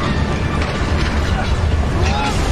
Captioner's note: screaming, fighting